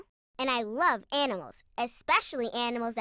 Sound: none

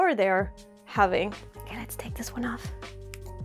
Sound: whisper

